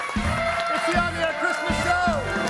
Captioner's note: audience cheering and applauding